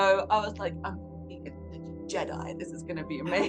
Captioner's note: mumbles